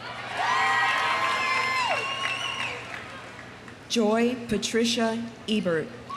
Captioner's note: audience cheering; audience applauding